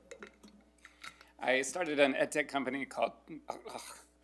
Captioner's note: grunts